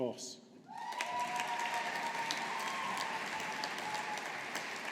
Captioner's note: audience applauding